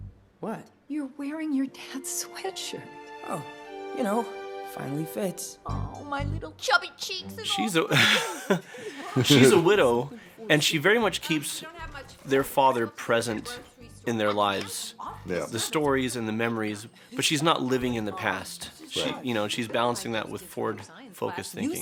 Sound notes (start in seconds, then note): 7.9 chuckles